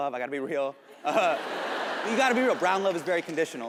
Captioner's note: audience laughs